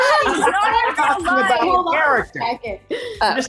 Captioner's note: laughing